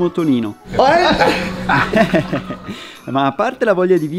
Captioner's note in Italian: risate